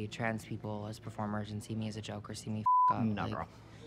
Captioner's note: beep